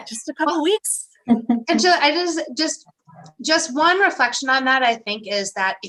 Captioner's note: laughter